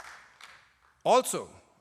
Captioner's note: applause